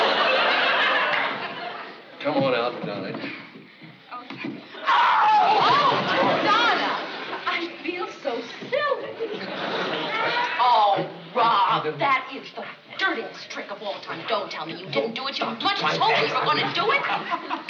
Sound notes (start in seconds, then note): 4.8 screaming